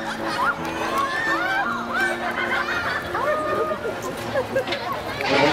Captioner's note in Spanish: Risas de niños